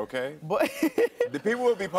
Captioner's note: laughs